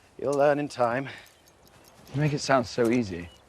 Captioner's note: chain clinking